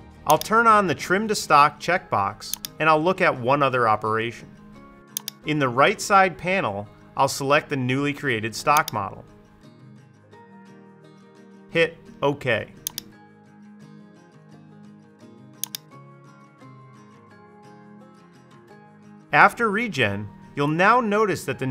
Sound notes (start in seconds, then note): 9.9 soft music; 13.3 mouse clicking; 16.1 soft music